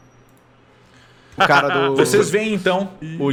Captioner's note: laughs